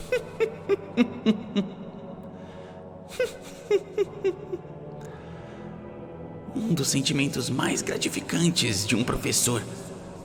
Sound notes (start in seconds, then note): 0.0 eerie cackles; 3.2 cackling